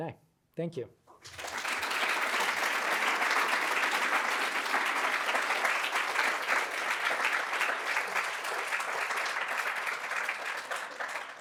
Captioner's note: applause